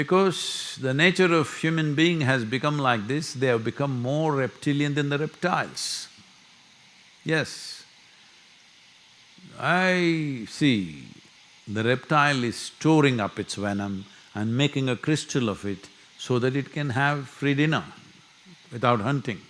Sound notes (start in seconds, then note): none